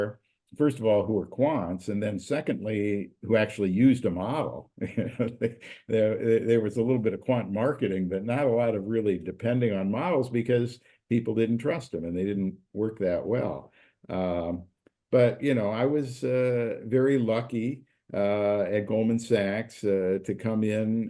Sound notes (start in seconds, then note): 4.8 laugh